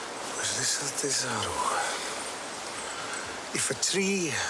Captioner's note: speaking in foreign language